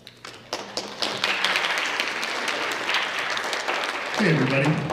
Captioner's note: audience applauds